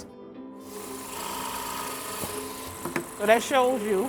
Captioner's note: drills whirring